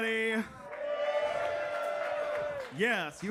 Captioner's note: attendees cheer and clap